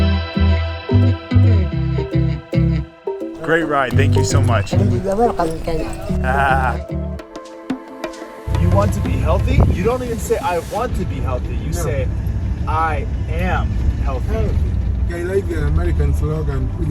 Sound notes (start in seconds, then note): 6.2 laughing happily